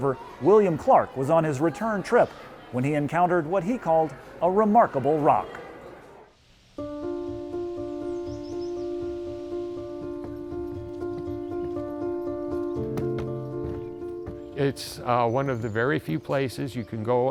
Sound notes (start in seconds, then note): 6.8 intriguing music; 6.8 birds chirping